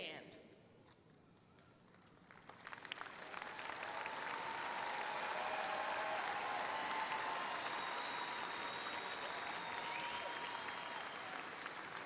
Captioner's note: applause